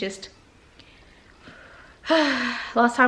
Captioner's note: deep breath